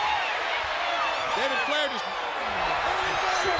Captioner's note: crowd chatter